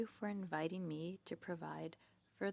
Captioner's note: speaking French